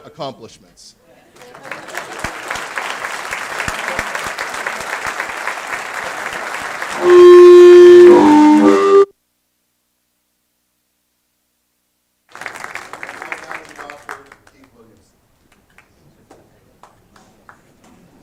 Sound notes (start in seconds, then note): 3.3 applause